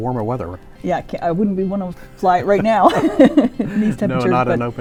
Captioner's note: laughs